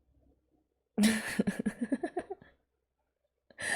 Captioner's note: laughs